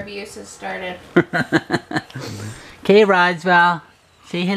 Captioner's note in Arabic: يضحك